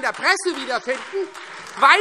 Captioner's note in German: Beifall Freie Demokraten und SPD - Heiterkeit